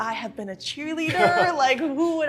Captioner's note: laughing